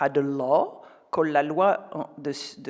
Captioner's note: speaks French